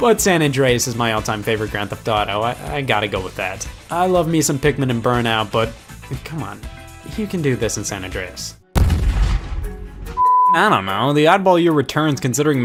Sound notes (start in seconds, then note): 8.7 loud bang; 10.1 beep